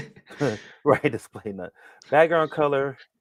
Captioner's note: chuckles